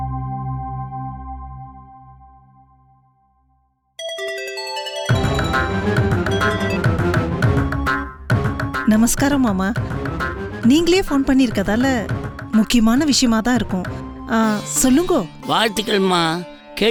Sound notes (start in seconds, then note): 4.0 phone rings